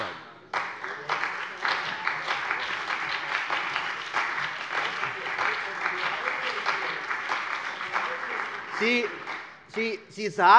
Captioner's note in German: Beifall : Am lautesten!